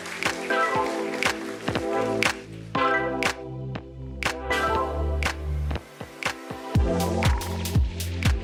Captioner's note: applause